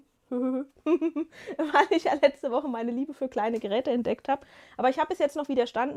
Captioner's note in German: gelächter